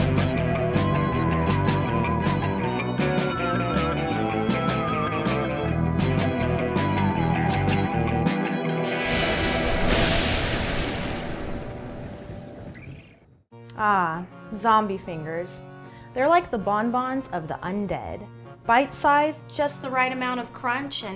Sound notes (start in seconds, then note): 0.0 upbeat spooky music; 9.0 lightening booms